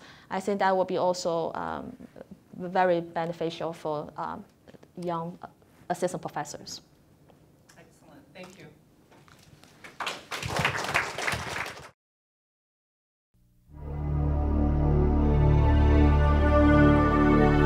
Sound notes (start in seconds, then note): 9.8 audience applause; 13.7 musical tones play